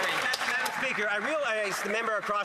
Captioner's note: some Applause